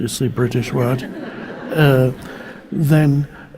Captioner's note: audience laughing